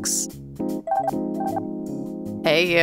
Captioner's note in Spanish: suena el teléfono